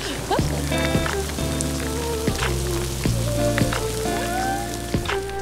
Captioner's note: rain falling